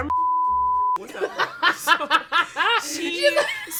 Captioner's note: beep; laugh